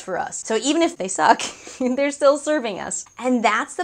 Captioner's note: laughs